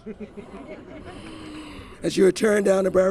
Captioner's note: laughter